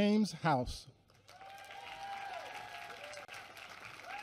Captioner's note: applause